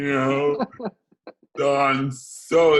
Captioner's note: laughs